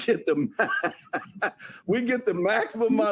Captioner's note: laughs